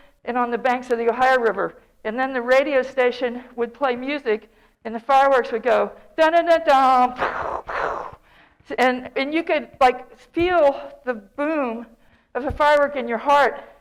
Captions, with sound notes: and on the banks of the Ohio River. And then the radio station would play music and the fireworks would go "dun uh duh duh" [Mimics explosions] And you could like feel the boom of the firework in your heart.